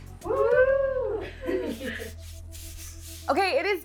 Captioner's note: team laughs